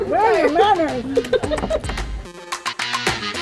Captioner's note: laughing; upbeat music